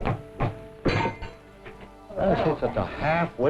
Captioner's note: object clanks